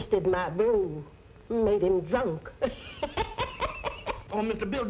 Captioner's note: cackling